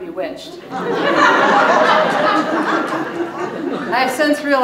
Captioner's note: audience laughing